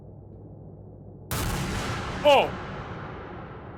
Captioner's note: gun fires; Skull yells